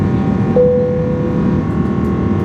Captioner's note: plane notification beeps; engines continue roaring